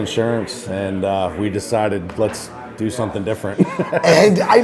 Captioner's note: laughs